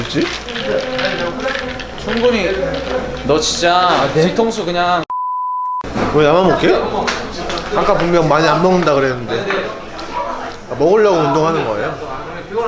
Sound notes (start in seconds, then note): 5.9 chowing down